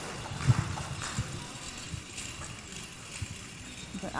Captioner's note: beads clinking